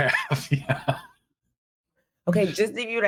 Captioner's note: chuckling